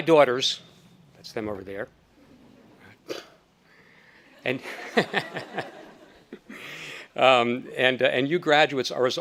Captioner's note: speaker, audience laughing